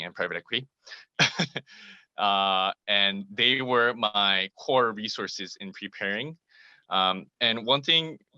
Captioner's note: laugh